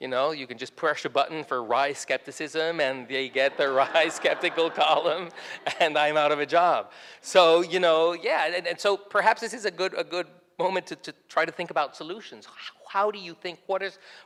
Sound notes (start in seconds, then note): 3.3 audience laughs; 3.4 laughs